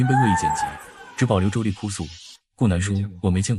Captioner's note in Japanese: 女の泣き叫ぶ姿と